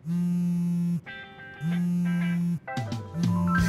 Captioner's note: cell phone rings